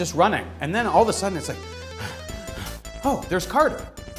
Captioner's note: heavy breathing